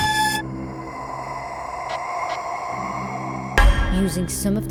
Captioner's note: haunted breathing